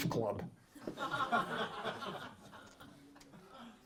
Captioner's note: laughter